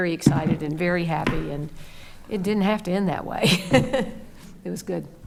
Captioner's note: laughs